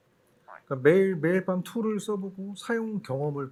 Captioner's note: speaking korean